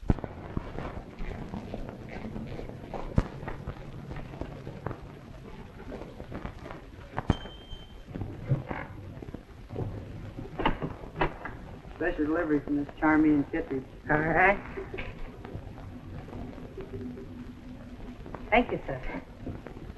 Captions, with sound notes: [ DOORBELL DINGS ] [ DOOR OPENS ] Special delivery from Miss Charmain Kittredge. Thank you, Sir.